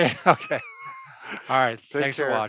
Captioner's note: laughing